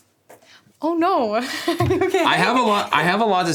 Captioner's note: laughs